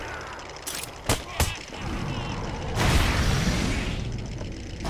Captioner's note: enemy grunts; fist hitting